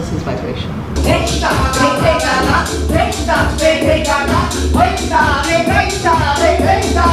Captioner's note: reciting bol together